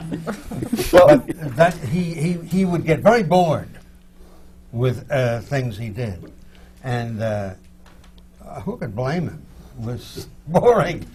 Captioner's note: laughter; laughs